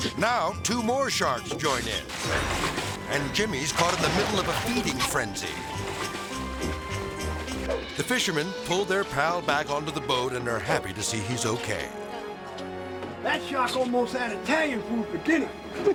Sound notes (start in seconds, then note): 1.6 water rustling; 5.5 air swoosh; 5.5 melodic music; 11.7 tranquil music